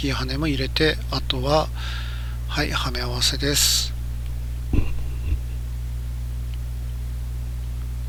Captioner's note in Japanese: 咳払い